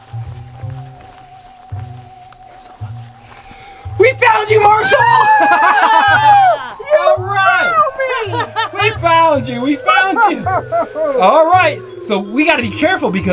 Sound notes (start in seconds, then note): 4.7 Marshall screaming; 8.2 Zuma laughing